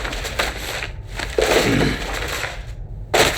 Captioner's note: crinkling